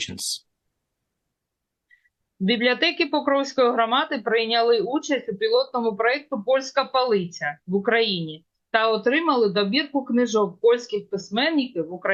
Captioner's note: foreign language